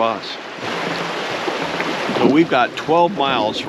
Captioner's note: water flowing